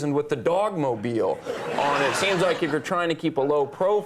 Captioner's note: audience laughing